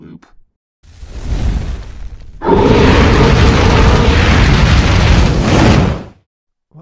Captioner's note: flames briefly crackle and fire-breathing briefly emits